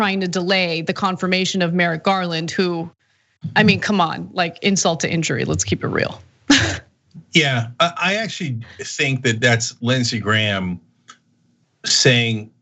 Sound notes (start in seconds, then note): 7.2 laugh